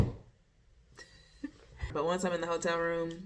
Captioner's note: chuckles